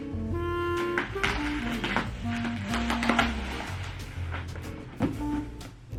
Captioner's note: gentle music continues; plastic wrap rustling; gentle music continues